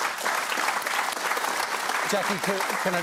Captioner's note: applause